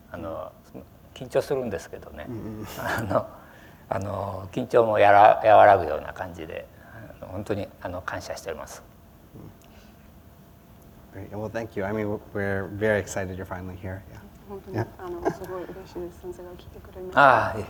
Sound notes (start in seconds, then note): 15.5 foreign language